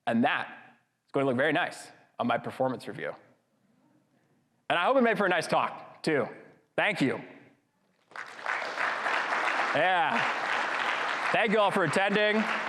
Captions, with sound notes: And that is gonna look very nice on my performance review. And I hope it made for a nice talk too. Thank you. (audience clapping) Yeah, thank y'all for attending.